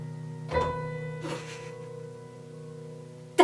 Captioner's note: another note, and a giggle